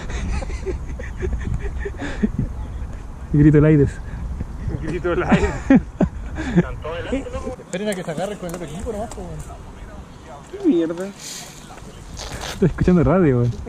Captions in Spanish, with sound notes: (risas) "Grito Laides" Grito Laides! ESTÁN TODOS ADELANTE Esperen que se agarren con el otro equipo no más. Que mierda? Se está escuchando la radio